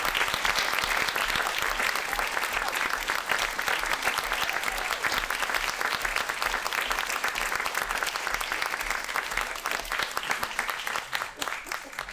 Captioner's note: audience cheering